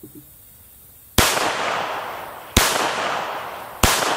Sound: gunshots

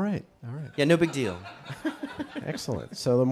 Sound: audience and chuckle

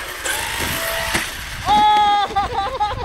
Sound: trucks landing; laughing

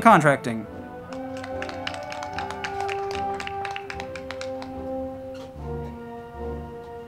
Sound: band music; crowd clapping

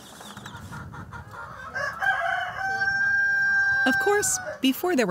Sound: chickens clucking

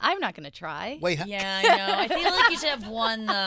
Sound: laughing

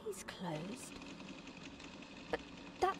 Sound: machinery turning

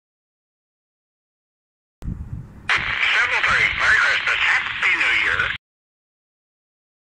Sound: sound of Christmas satellite

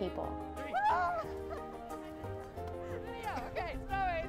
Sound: hooting

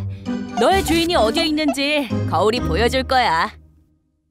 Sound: laughs

